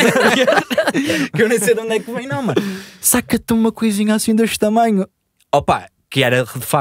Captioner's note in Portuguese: risos